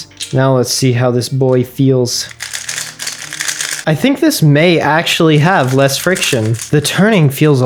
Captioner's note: click clack